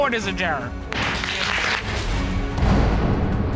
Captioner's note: bangs gavel; audience applauding